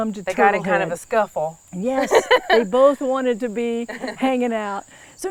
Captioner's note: laughs